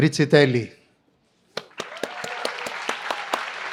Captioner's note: applause